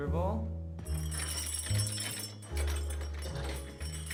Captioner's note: bells jingling; gentle jazz music